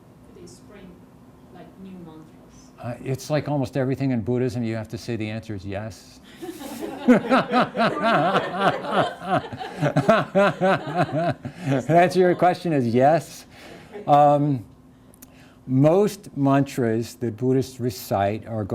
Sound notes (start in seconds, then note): 6.4 everyone laughs